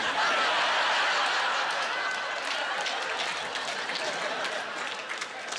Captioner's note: laughing